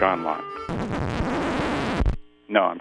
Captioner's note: record scratching